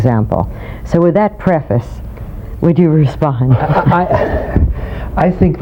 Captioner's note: laughing